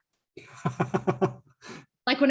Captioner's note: laughs